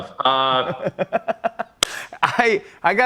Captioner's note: laughs